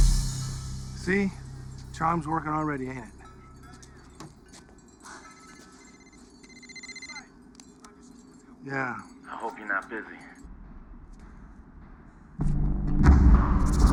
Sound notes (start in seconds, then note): 2.9 phone rings